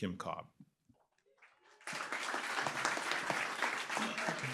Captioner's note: applause